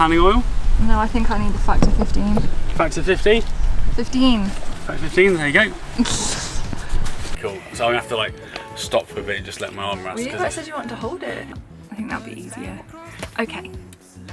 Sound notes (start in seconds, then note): 5.9 laughs